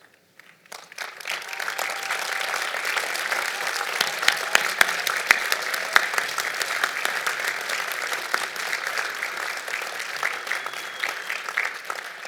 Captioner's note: applause